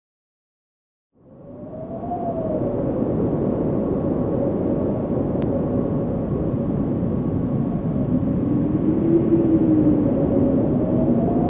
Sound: sound of blowing wind

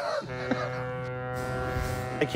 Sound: laughs; ship horn

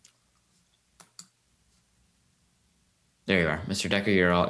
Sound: mouse clicking

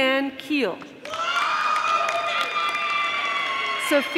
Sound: audience applauding

